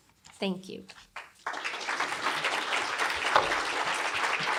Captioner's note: applause